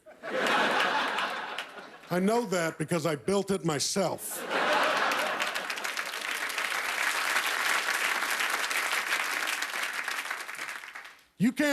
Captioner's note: laughter; applause